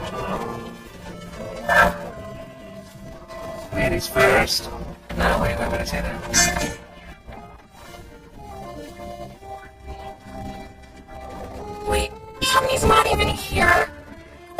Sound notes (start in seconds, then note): 2.6 Gloink Queen groaning